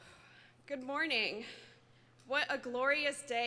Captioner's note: sighs